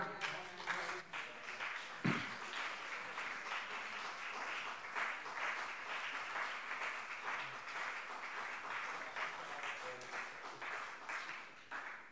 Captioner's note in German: Beifall CDU und BÜNDNIS 90/DIE GRÜNEN - Zuruf SPD: Ei, ei, ei!